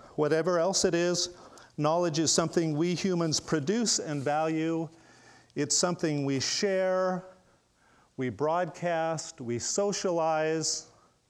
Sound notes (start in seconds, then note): none